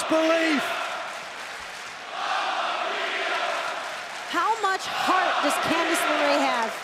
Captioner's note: crowd cheering